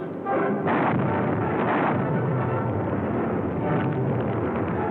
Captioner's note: explosions